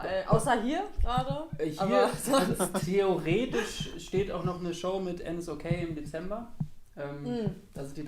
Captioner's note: laughter